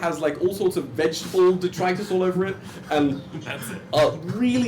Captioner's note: laughs